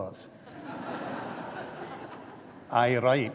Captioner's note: laughter